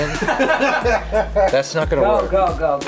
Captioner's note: laughing